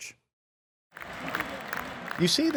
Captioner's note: crowd cheering